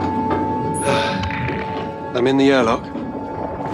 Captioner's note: sigh